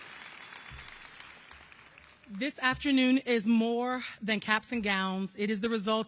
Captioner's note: applause